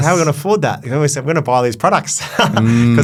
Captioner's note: laughs